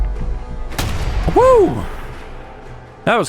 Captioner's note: blam!